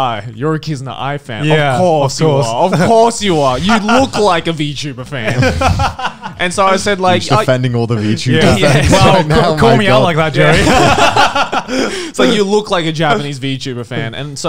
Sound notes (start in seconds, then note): 2.5 laughs; 5.2 laughing; 10.8 all laughing